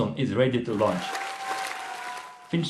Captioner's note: cheers, applause